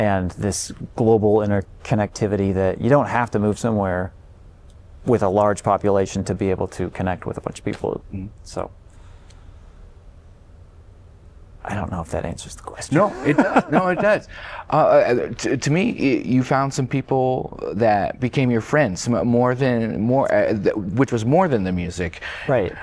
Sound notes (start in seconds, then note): 13.0 laughter